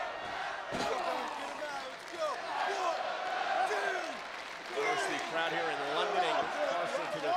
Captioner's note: crowd cheering